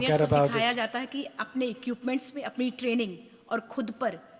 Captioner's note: speaks foreign language